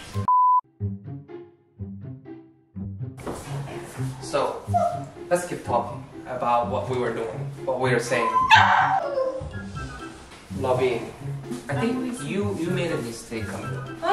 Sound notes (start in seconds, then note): 8.3 Puding is still barking